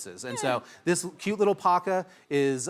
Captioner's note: whimpers